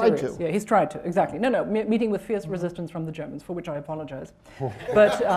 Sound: laughter

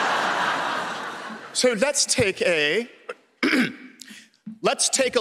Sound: clears throat; in american accent

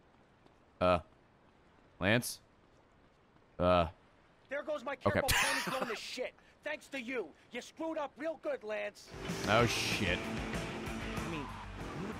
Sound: laughs

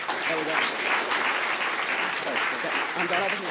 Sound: applause

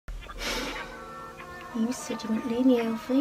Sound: sighs

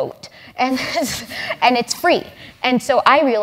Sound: laugh

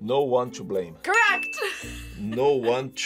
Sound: bell rings

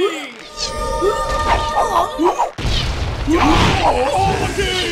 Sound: battle cacophony

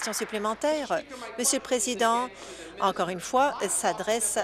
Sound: applause

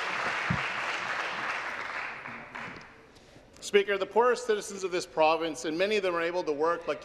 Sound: applause

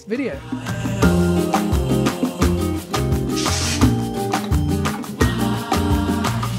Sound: lively music; text whooshing

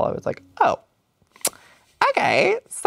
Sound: smack lips

